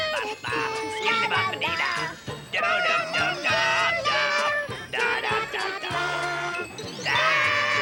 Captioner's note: humming theme